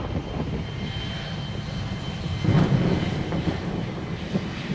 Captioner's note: thunder rumbling